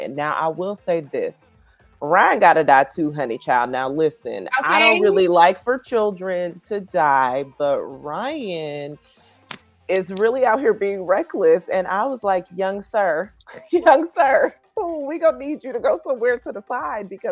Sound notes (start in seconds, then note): 13.4 laughing